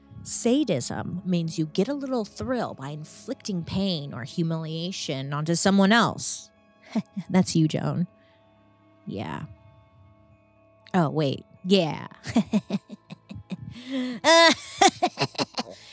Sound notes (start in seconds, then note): 7.2 snickers; 12.2 chuckles